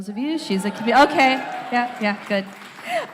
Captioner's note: audience cheers